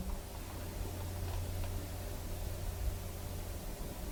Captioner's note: static